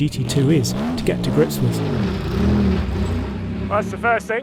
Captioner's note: car engine revving